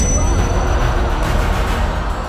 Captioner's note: crowd Gasping